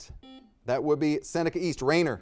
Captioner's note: buzzer dings